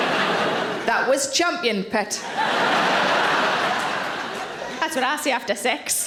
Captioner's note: audience laughs